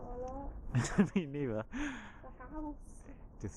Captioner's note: laughing